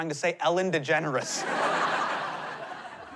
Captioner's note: laughter